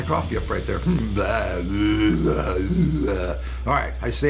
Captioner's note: man burping